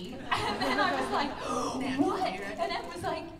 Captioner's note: laughter